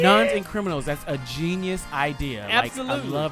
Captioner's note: laughs